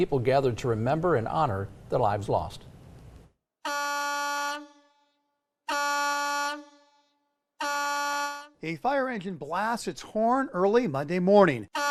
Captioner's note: horn blasting